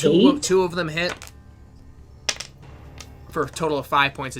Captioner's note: dice rolls